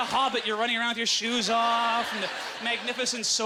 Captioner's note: audience laughter